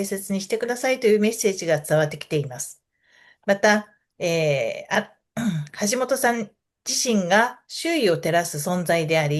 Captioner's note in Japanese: 咳払い